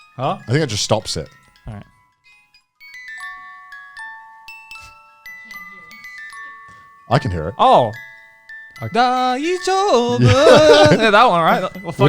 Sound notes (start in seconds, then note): 2.3 bell chiming; 8.9 singing in foreign language